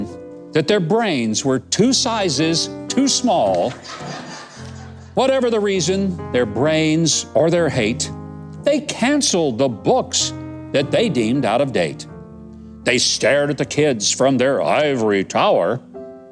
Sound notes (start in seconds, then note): 3.5 audience laughs